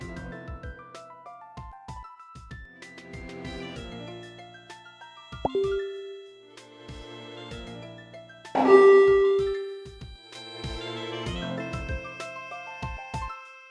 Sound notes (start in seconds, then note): 5.4 another facebook messenger notification sound; 8.5 yet another facebook messenger notification sound